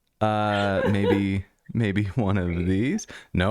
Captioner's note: laughter